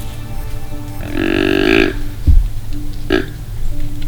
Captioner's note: grunt call; soft background music